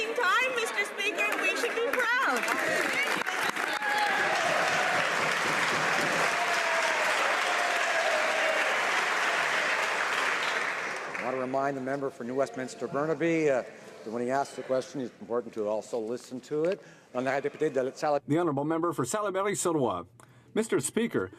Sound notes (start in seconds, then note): 6.0 some Applause